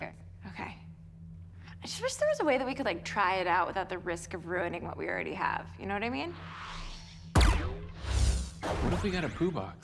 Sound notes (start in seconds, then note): 6.3 system whirs